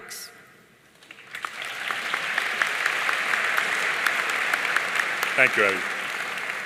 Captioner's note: audience cheering and applauding